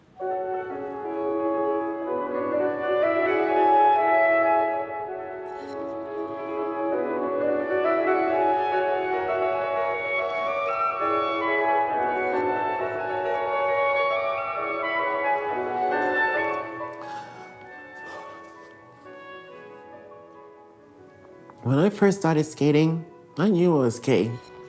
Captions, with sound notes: [enchanting music] [skates scraping ice] [enchanting music] When I first started skating, I knew I was gay.